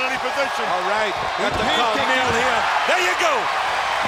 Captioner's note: group chattering